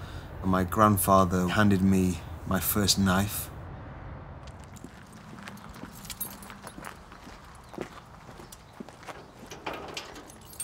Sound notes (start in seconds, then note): 5.3 keys jingling